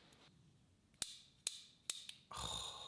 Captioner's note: tool clicking